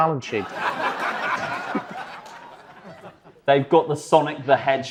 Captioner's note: audience laughs